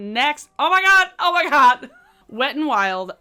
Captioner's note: giggles